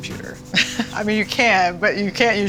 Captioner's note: laughing